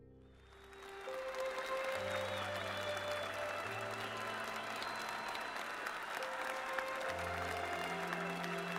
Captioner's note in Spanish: Vítores, aplausos, silbidos